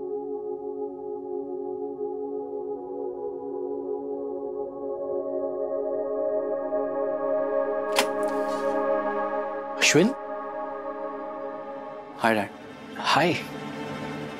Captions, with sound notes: [door opening] Ashwin! - Hi, Dad! - Hi!